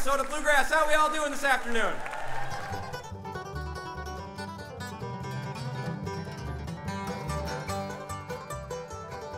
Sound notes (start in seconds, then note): 2.0 audience cheering